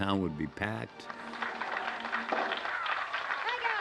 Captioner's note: applause